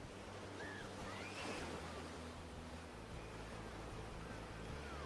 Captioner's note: children playing